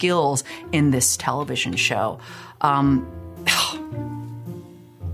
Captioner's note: scoffs